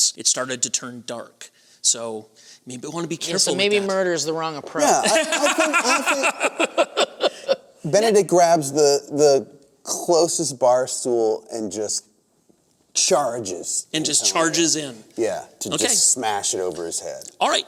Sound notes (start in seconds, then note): 5.0 laughter